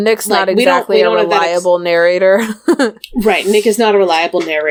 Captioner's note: laughs